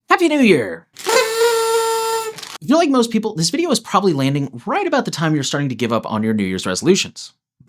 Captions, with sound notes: Happy New Year! [HORN] If you're like most people, this video is probably landing right about the time you're starting to give up on your New Year's resolutions.